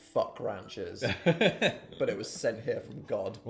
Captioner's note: chuckling